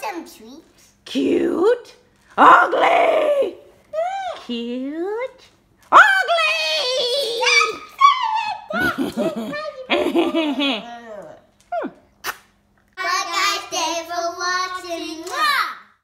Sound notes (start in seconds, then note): 1.3 voiceover; 8.6 evil laugh; 12.2 kissing